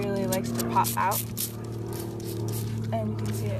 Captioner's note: water squirting